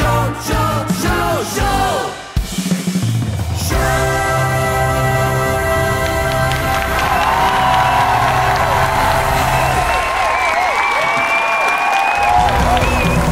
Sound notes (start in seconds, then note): 5.9 crowd cheering; 5.9 crowd clapping